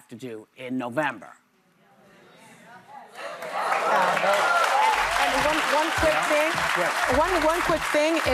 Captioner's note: cheers and applause